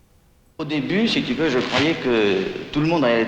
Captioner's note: speaking french